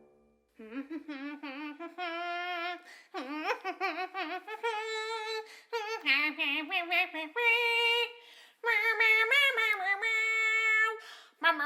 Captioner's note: humming; more humming